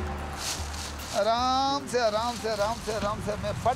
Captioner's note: foreign language spoken